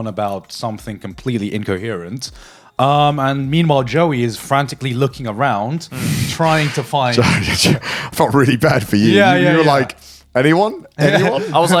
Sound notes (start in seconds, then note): 7.1 chuckles